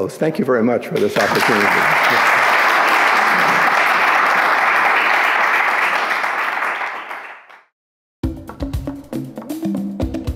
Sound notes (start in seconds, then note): 0.9 audience claps; 8.2 drum music